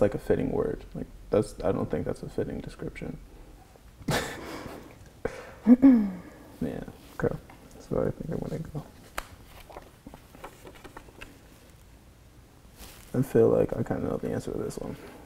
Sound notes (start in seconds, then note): 4.0 chuckles; 5.7 clears her throat